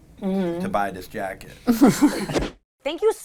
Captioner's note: all laughing